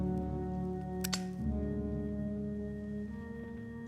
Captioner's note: lighter clicking; somber music